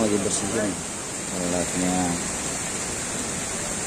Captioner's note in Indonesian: suara sungai